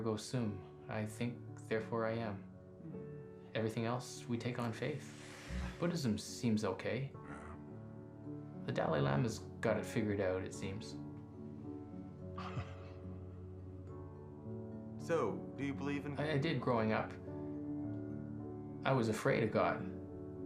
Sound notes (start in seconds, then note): 7.2 grunts; 12.4 coughs